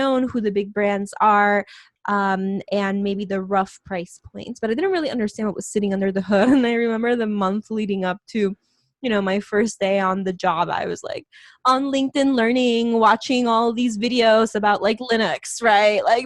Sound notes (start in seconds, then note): 6.3 laughs